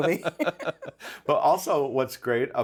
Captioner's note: both laughing